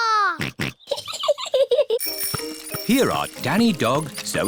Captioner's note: snorts; chuckles